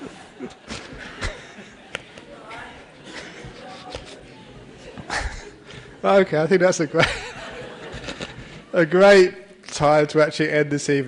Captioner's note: laughter; laughter